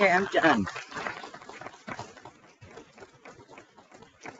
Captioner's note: people clapping